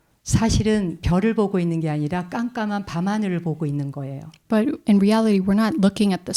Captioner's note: speaking in Korean